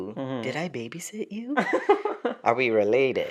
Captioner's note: laughter